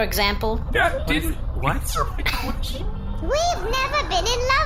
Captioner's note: laughing